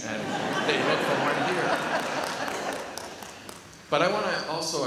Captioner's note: laughs